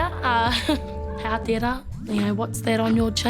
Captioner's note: laughs